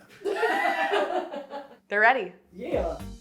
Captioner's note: all laughing